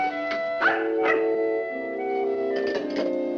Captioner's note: dog barking; light music